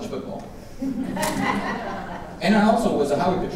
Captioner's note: audience laughing